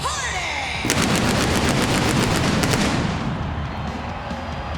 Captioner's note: pyro blasting